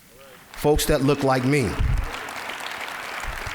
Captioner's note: applause